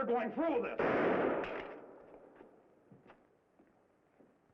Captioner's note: gunshot bangs